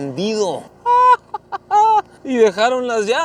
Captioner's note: laughter